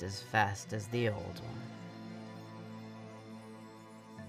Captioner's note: none